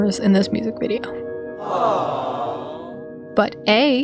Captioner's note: studio audience "awwwww"